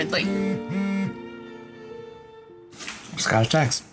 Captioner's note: cell phone buzzing